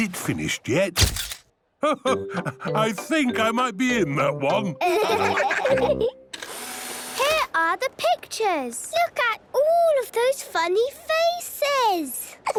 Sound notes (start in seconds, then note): 1.0 camera clicks; 6.4 whirring